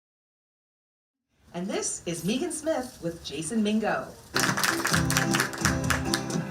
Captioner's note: applause